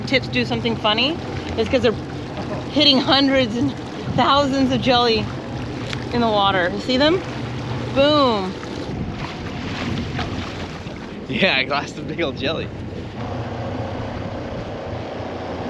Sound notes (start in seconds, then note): 11.9 splashing